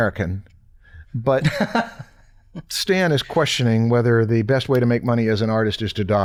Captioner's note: chuckles